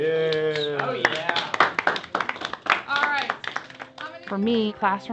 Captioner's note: applauding